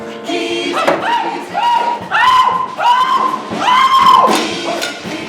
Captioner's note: man screaming